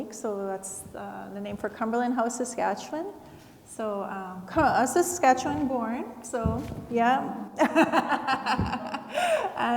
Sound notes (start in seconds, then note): 7.8 laughs